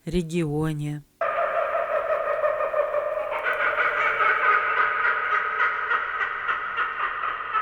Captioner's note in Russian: звучит голос кукабарры